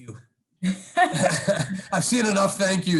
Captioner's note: both laughs